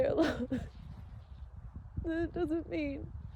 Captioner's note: sobs weakly